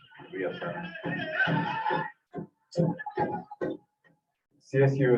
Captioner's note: people humming